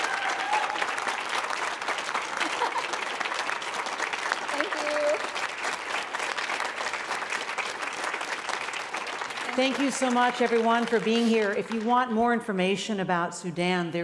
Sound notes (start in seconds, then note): 0.2 audience applauding; 6.4 audience applauding